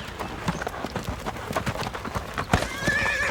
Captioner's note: horse whinnying